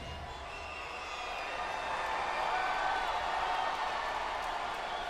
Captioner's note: crowd cheering